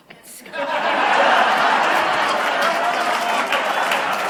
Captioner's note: laughter/Applause